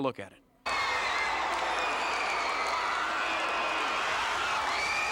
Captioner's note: crowd cheering and applauding